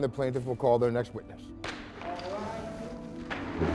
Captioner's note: gavel bangs